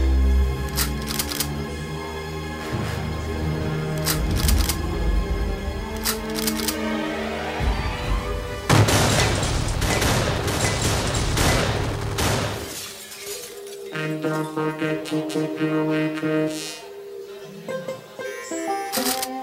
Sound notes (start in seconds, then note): 0.3 guns cocking; 8.6 guns firing